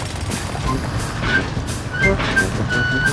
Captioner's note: drilling